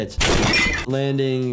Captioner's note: table clatters